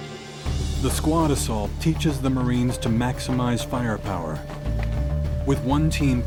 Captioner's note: voiceover